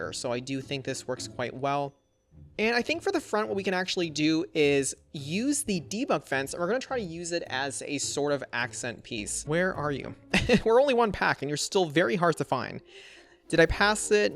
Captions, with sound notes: So I do think this works quite well. And I think for the front, what we can actually do is use the debug fence. We're going to try to use it as a sort of accent piece. Where are you? (Laughs) We're only one pack and you're still very hard to find. Did I pass it?